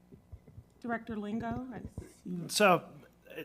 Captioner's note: speaks faintly